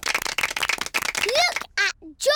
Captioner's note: applause